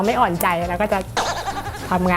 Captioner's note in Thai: เสียงเอฟเฟกต์